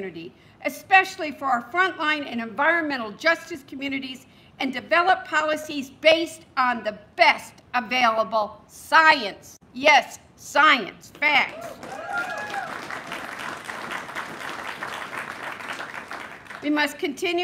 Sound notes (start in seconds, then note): 11.6 applause